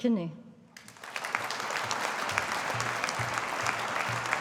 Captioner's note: audience applauding